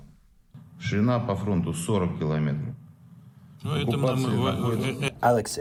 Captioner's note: through translator